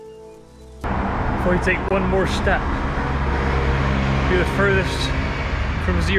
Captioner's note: West Country accent